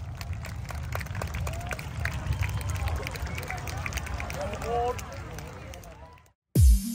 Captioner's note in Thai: ปรบมือ